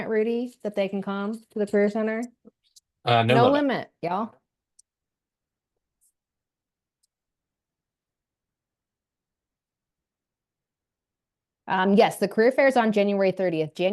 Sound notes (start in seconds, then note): 7.0 silence